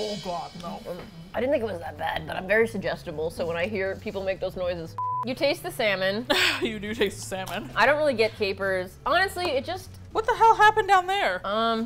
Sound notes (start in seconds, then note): 1.1 hoarsely